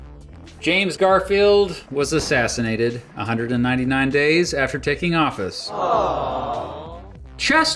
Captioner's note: awww sound effect